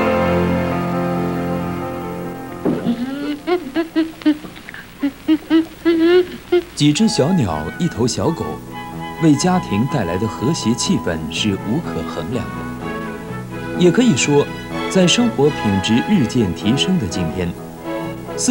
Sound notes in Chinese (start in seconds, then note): 1.0 鳥叫聲